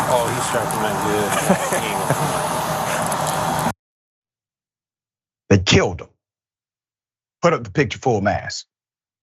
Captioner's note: laugh